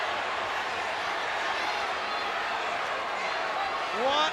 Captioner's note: spectators cheering